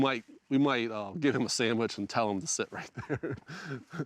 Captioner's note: chuckles